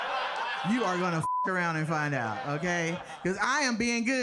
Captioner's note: beep